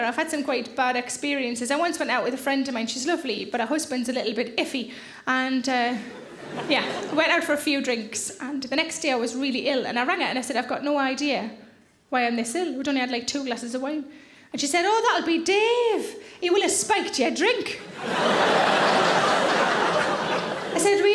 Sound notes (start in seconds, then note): 6.1 audience laughs; 17.8 audience laughs